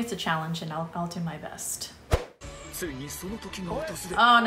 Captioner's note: commentator speaking Japanese